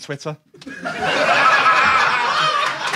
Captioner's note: audience laughs; audience applauds